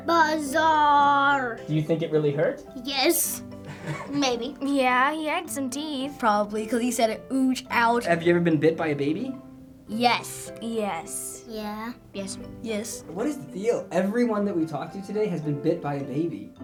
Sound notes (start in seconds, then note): 3.8 crew laugh